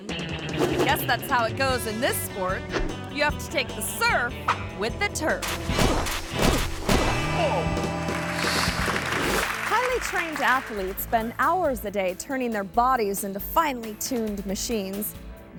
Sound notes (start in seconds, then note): 0.0 upbeat music; 0.5 image whooshes; 5.4 body thudding; 5.5 man grunts; 7.9 audience clapping; 8.3 image whooshes